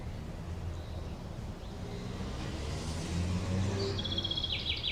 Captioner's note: birds chirping